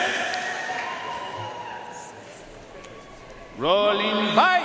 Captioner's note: audience cheering and applauding